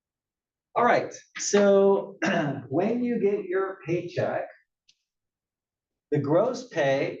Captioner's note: cough